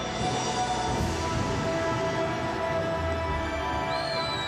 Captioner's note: thunder rumbling